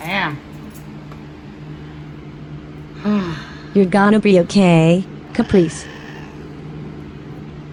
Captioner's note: meows angrily